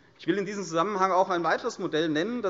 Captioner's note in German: none